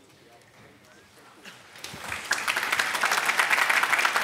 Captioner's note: applause